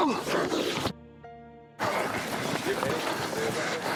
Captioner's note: scuffling